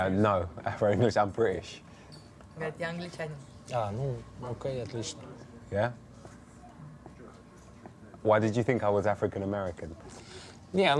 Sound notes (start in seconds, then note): 2.5 translator speaks in foreign language